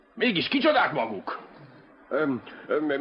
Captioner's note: coughs